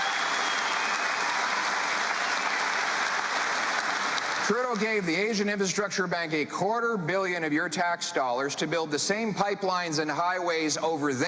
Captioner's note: cheering